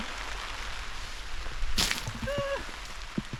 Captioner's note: splosh